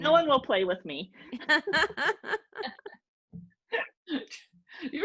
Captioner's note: laughing